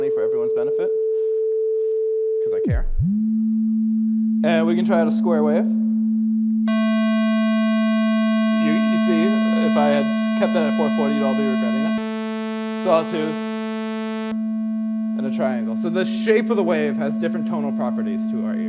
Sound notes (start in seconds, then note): 9.6 lower pure tone playing; 11.6 noisier tone playing